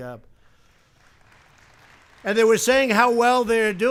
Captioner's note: applause